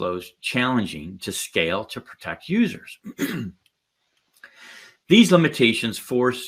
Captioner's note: clears throat